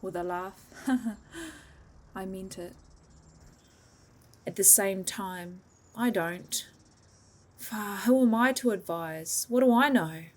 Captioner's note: haha